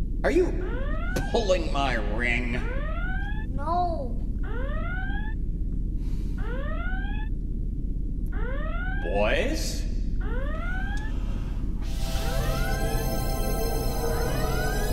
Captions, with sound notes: - Are you pulling my ring? - No. (alarm sounding) - Boys. (magical music)